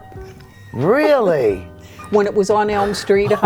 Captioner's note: chuckles